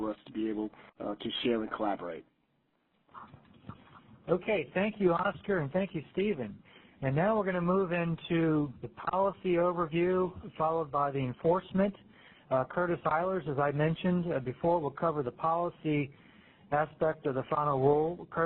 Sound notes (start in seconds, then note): 4.5 voiceover